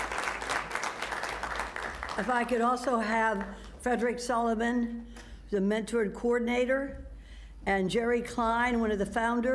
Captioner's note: applause